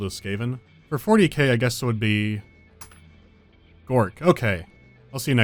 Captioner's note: dink